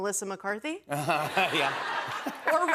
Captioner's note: laughter